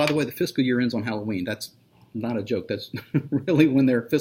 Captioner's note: laughs